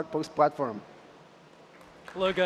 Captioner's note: applause